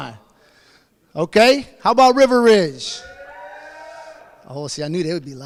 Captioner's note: audience cheers